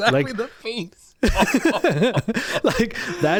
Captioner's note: laughing